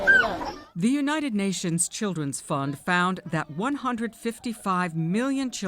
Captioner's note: voice-over